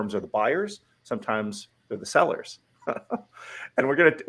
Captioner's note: laughs